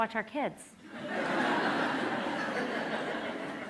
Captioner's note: laughter